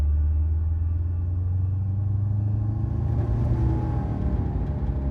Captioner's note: engine roaring